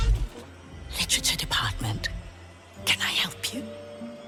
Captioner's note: whispers